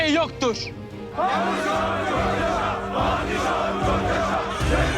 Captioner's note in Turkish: Hep bir ağızdan